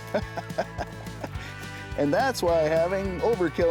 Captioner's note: he chuckles